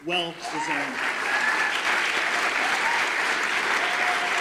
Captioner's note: audience applause